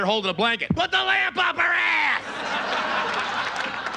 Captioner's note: knocks; audience laughs